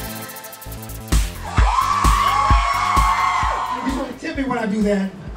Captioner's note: more cheering